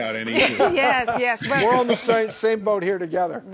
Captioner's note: everyone laughing